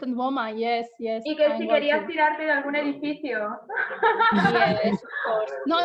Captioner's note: laughs